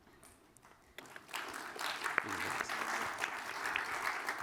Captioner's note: applause